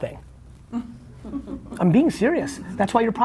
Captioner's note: laughing